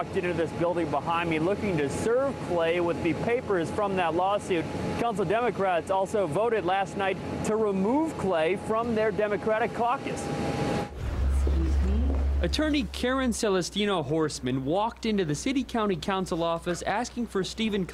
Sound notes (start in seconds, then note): 13.8 / :nats of footsteps